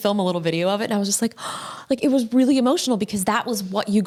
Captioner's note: gasping